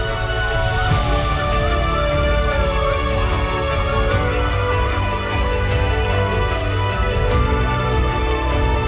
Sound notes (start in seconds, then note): 2.4 police Sirens